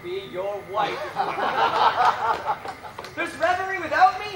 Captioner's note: laughing